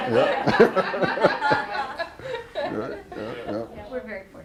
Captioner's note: laughter